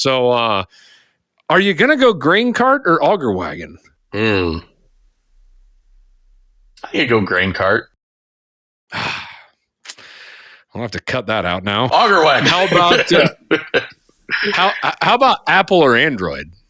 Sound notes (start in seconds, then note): 8.9 sighing; 12.0 laughing